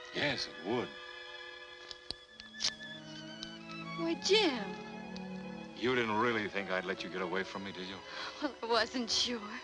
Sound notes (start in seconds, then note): 1.9 paper ripping